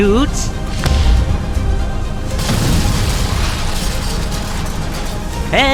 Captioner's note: GD cannon shot, propeller shatters